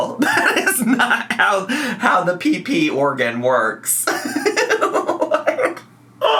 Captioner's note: laughs; laughs